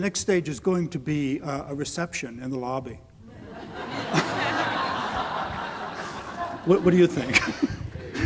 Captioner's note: audience laughter